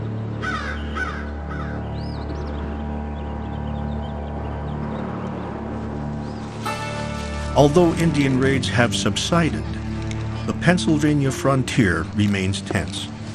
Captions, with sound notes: (crow caws) (birds sing) Although Indian raids have subsided, the Pennsylvania frontier remains tense.